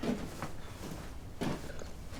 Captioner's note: footsteps approaching